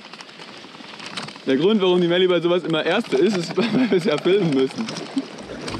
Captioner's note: laughs